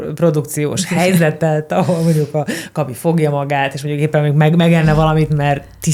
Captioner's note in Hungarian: nevetés